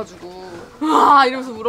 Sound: cry

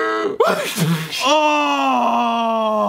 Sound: spitting

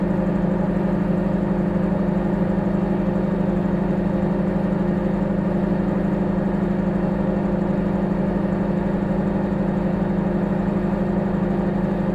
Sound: microwave humming

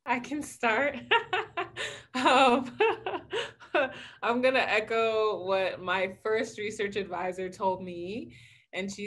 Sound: laughs

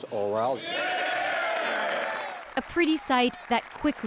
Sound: speaking French

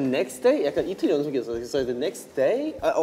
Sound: speaking in Korean

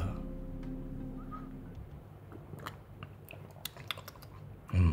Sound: slurping sound

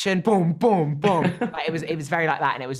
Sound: laughs

